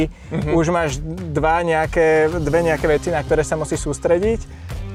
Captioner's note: laughs